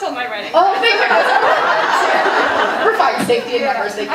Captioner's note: audience laughing